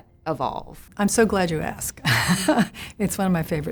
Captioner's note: chuckles